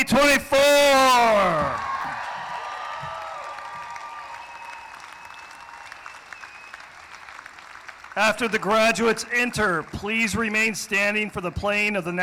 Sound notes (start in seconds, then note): 0.6 cheering; 2.0 applause